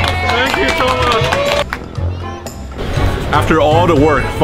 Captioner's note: crowd applauding